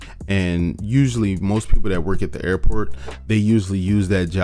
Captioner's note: none